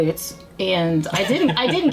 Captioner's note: laughs